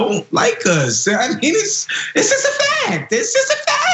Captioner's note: laugh